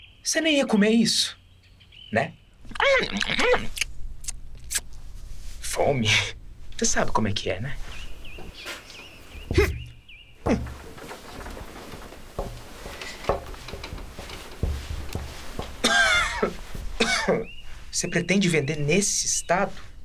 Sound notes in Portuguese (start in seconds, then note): 2.7 Ruídos acelerados de mordidas; 10.4 Interjeições de esforço